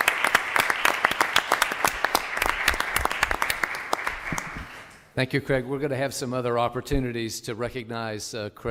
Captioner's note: applause